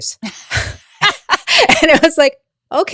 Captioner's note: presenters laughing